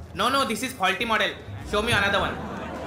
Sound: non-english speech

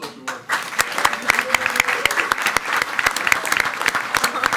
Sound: everyone applauding

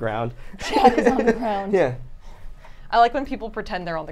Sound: everyone giggles

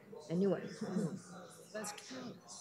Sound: chuckles

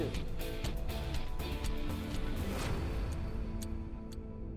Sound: clock ticking

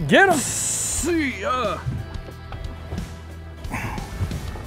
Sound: grunting

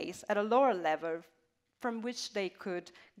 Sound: none

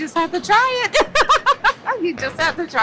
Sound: laughs

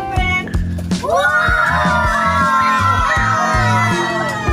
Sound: crowd cheering

